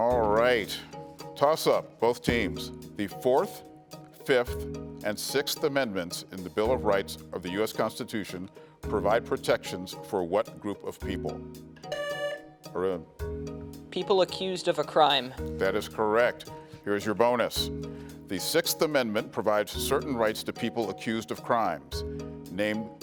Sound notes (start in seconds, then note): 11.9 buzzer sounding